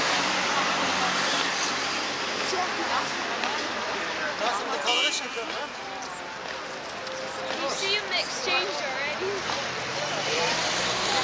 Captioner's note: loud car sounds